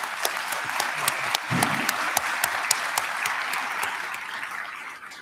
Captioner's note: applause